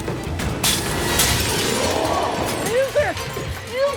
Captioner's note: glass shatters